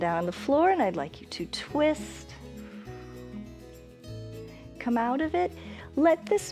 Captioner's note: exhales